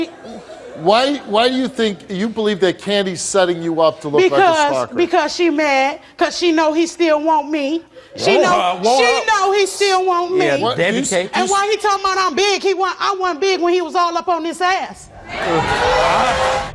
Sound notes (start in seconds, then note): 9.8 mumbles; 15.2 audience hollers; 16.5 dramatic orchestral music